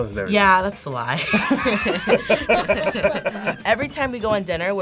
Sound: both laugh

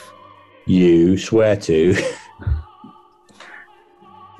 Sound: laughs

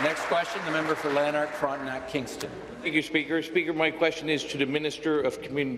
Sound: applause

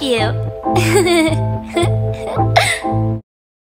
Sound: giggle

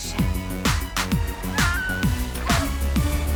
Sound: woman screams

